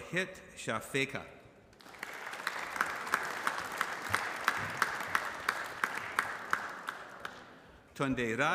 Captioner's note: applause